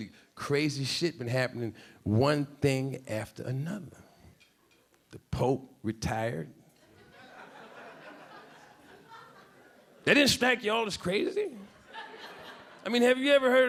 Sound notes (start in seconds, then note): 6.8 a few audience members laughing; 11.8 a few audience members laughing